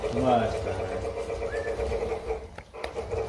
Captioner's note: whistling; train sounds